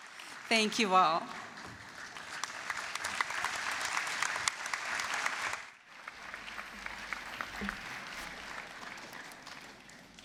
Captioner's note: applause; applause